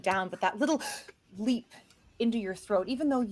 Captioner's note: gasps